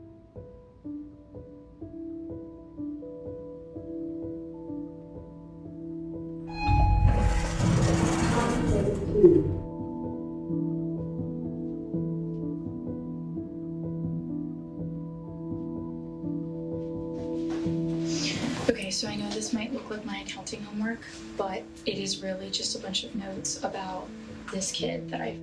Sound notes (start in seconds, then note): 0.2 soothing music; 6.4 lift squeaking; 10.6 soothing music continues